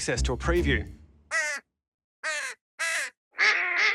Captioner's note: different bird noises